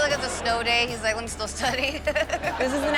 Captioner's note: laughs